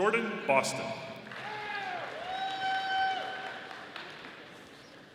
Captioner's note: audience applauding